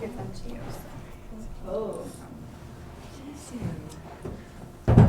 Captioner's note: chatter